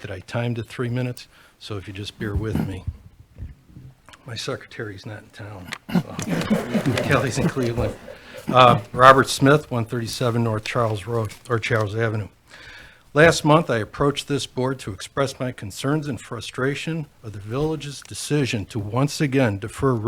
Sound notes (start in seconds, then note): 5.8 everyone laughs